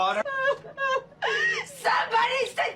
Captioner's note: crying